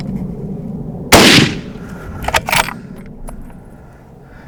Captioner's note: gun fires; gun cocking